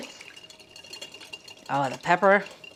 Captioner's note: whisk rattling